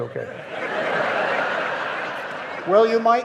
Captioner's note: audience laughing